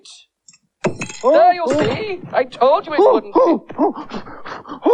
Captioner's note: magician Gives Cry Of Surprise